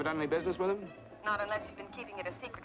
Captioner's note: on telephone